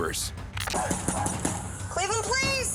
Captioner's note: knocking on door